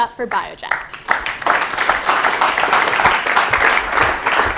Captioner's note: applause